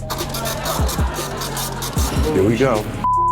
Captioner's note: machine whirring